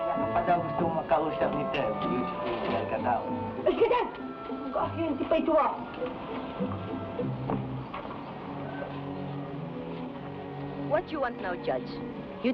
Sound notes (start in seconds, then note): 0.2 man speaking in Tagalog; 3.6 woman speaking in Tagalog